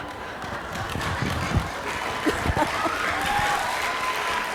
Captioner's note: applause